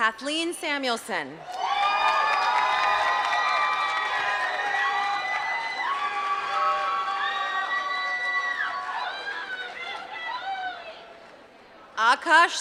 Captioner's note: applause